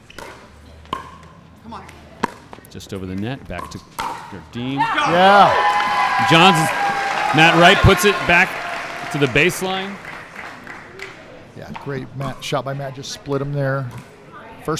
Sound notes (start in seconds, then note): 10.0 audience applauding